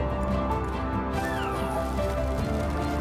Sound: scraping

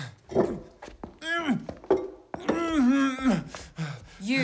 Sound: grunts

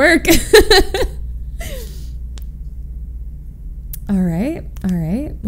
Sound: laughs

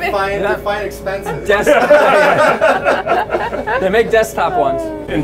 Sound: all laughing

